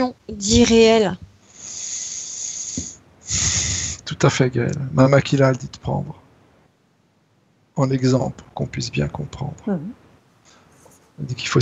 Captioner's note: breath